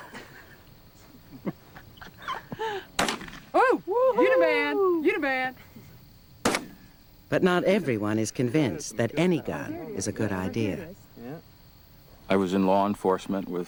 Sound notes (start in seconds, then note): 0.0 chuckling; 2.9 gunshot